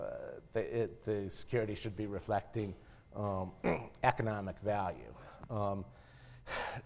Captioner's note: cough